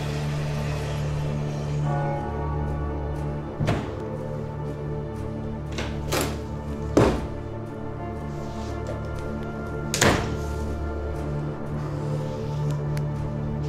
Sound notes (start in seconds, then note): 0.3 foreboding music continues; 9.8 door shutting